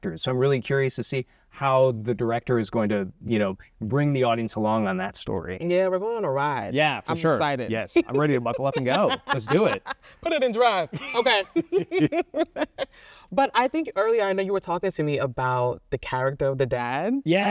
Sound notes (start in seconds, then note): 8.0 laughing; 10.9 both laugh